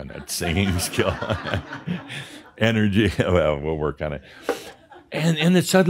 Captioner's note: laughter; a few more chuckles